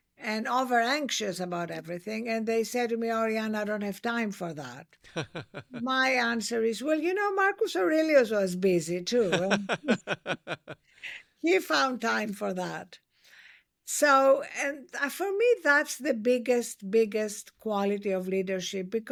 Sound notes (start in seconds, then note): 9.2 laughs